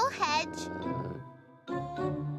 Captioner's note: growling